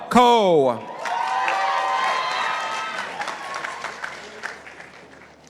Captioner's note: participants applauding